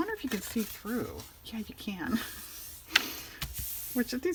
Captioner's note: laughs